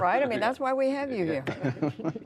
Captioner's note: laughter